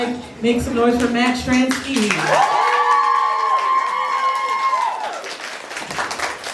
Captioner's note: applause